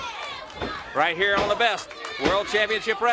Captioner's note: crowd cheering